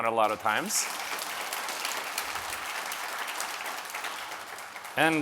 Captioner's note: audience applauding